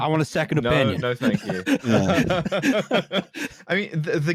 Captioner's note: laughter